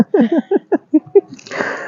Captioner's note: laughing